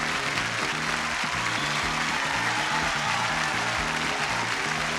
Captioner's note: audience applauding